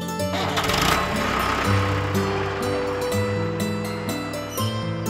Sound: tractor rumbling

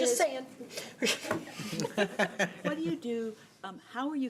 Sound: laughter

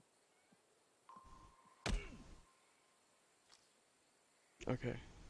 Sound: ping

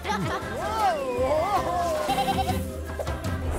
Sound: bleating, laughing

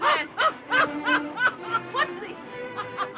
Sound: laughing

